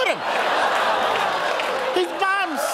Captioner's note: audience laughing